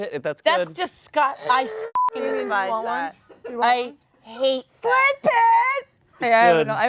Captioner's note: beeps